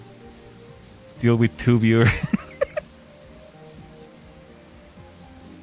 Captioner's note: laughter